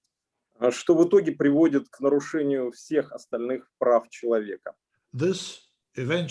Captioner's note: speaking Russian language